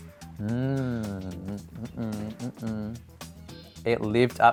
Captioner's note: humming an approving tune